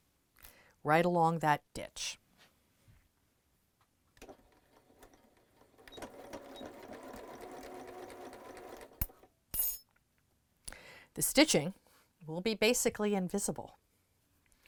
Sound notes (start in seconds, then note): 4.3 sewing Machine Sounds